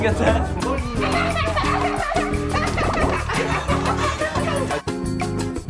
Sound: sarcastically laugh

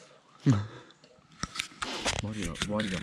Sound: chuckling

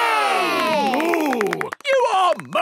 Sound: applause

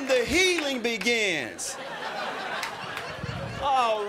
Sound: crowd laughing

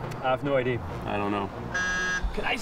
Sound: buzzer

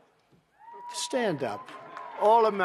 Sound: applause

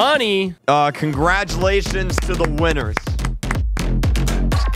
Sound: claps

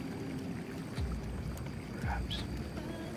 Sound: whispering

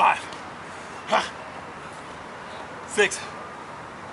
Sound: grunts

